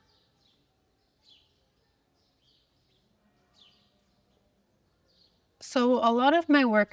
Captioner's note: birds chirping